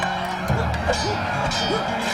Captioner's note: thud; metal clanging